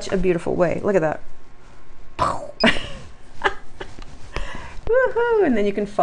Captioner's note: laughs